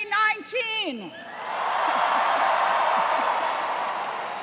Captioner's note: cheers